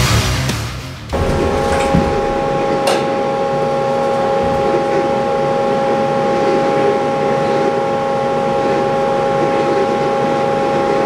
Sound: machining Noises

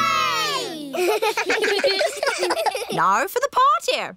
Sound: kids giggling

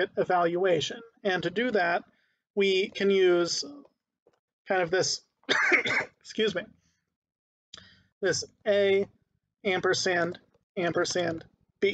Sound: coughing

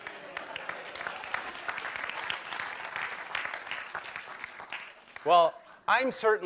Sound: clapping

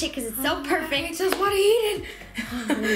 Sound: laughs

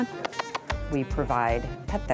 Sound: smooches

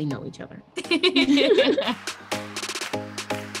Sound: laughing; upbeat music

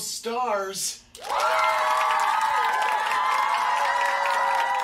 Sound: cheering and applauding; crowd

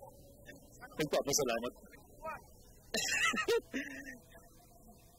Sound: laughs

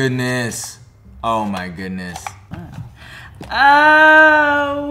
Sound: lever clicking

